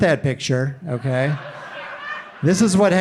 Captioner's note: audience laughing